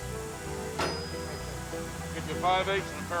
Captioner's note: tool thunks